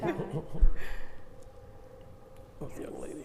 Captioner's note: chuckling